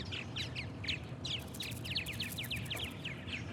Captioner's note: wings fluttering